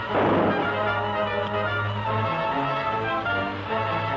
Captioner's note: gunshots